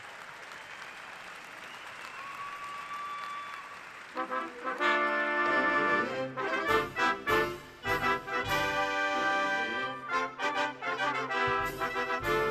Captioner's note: cheers and applause